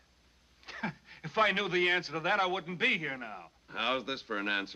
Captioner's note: scoffing